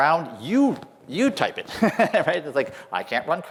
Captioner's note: laughter